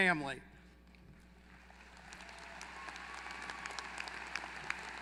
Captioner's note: applause